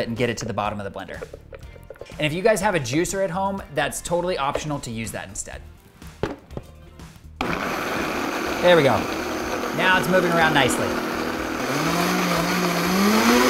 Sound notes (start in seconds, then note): 7.4 blender whizzing